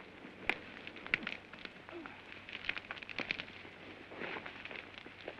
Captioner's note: flames crackle